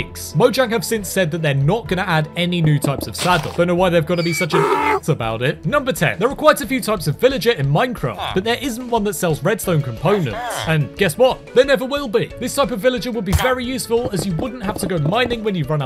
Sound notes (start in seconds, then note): 4.1 donkey sound